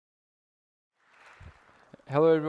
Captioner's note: applause